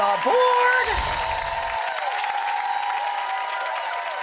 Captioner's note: applause